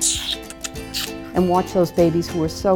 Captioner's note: kissing